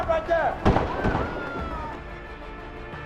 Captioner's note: gunshots